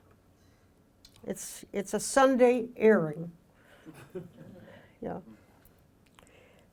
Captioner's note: audience chuckling